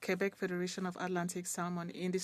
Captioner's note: speaking French